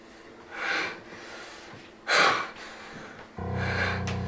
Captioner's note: Ira pants heavily